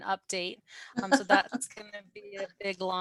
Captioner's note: laughter